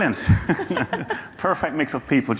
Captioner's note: laughing